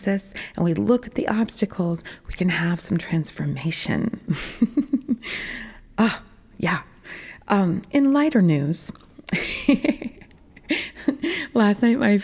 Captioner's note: laughing